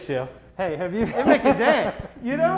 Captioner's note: laughing